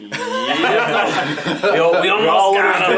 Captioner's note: all laugh